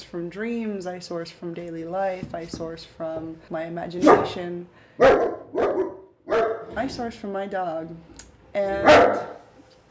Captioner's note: barking